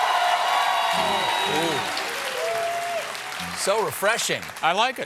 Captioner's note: cheers and applause